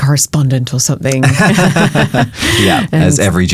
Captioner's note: both chuckling